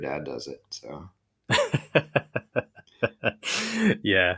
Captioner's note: laughing